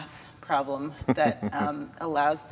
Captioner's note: laughs